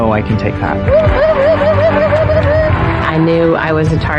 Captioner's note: whooping